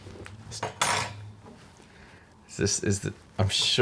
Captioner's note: scissors clattering on table